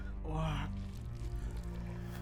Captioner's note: gurgled